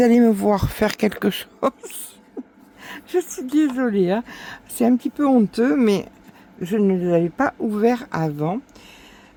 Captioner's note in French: rires